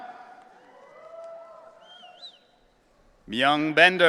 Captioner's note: audience cheering